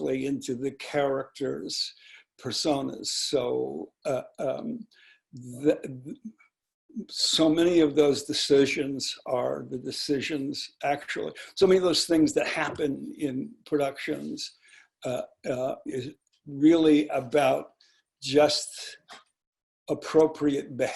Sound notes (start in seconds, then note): none